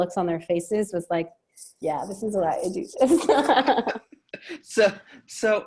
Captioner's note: laughing